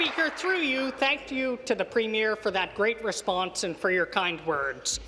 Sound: applause

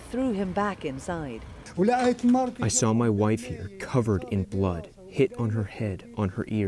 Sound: through translator

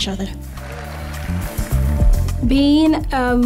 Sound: audience clapping

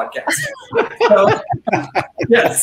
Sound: all laughing

